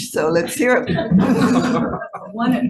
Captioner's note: all laughing